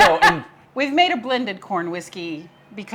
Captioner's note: laughs